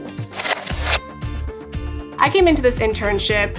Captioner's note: text whooshes